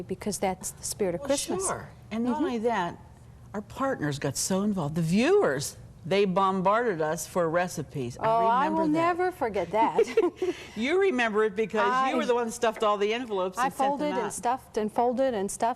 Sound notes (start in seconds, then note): 9.9 both chuckle